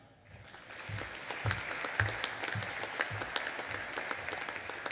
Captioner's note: audience applauding